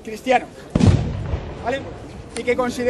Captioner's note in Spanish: ruido de un cañón